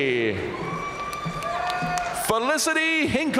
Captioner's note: audience cheering and applauding